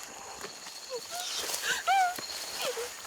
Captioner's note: crying